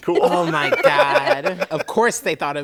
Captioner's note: laughter